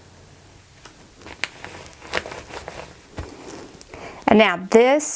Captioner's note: carrier sheet rustling